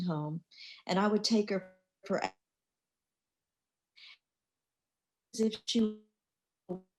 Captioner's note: crackling drowns out